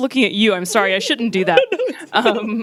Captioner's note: laughs; laughing